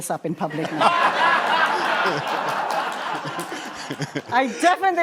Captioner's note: laughter